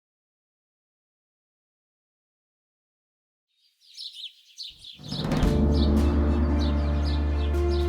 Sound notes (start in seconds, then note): 3.6 birds twittering; 5.0 powerful music